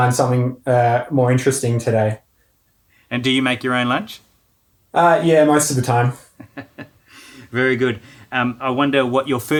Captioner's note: laughing